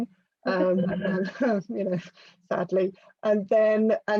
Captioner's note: laughs